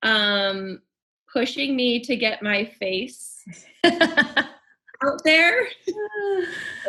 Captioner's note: both laughing